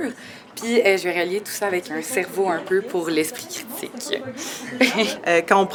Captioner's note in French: rires